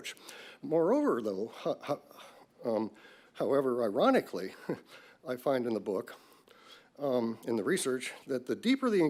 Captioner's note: laughs